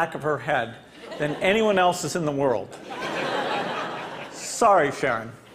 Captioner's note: Laughter; 笑聲